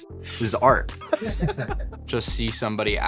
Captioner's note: laughs